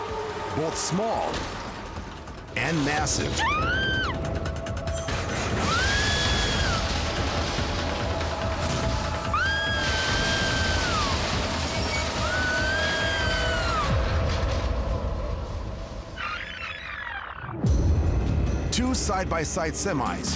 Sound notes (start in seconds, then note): 3.3 woman screams; 5.2 loud crash; 5.5 screaming continues; 9.0 screaming continues